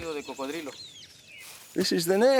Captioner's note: speaks in foreign language